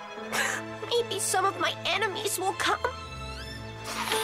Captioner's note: sobbing